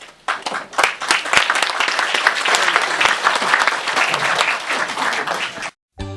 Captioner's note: audience Applauds